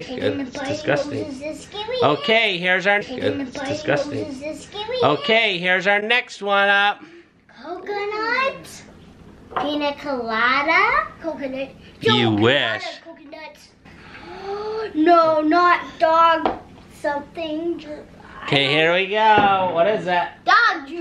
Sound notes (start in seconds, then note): 14.0 gasps